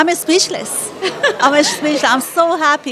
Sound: laughter

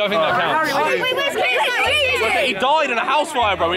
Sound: students shouting

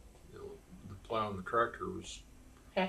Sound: laughs

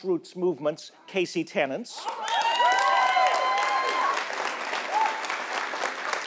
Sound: audience cheering

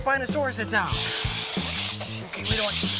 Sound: shushing

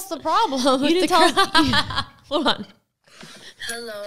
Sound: laughing

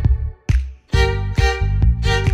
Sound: soulless snap

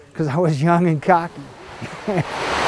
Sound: laughs; water flowing

